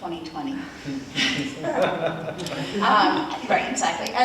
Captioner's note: audience laughs